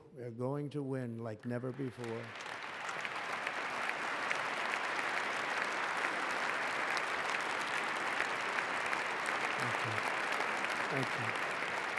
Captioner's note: applause